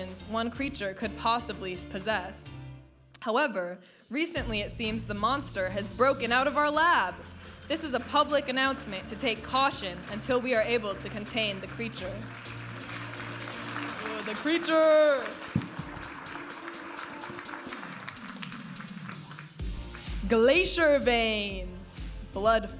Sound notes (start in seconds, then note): 15.5 audience applauding and cheering; 17.8 vibrant music